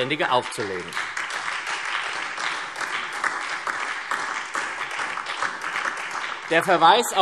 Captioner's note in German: Beifall SPD und Freie Demokraten